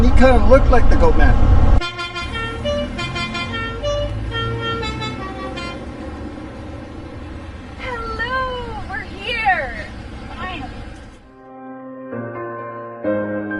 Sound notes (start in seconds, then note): 1.8 car horn beeping; 11.3 peaceful music